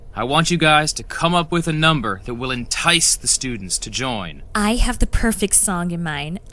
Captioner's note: none